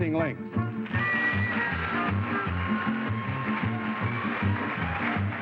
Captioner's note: applause